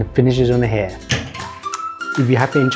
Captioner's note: closes cabinet